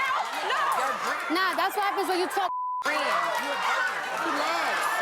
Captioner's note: beep